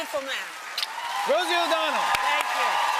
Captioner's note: cheers and applause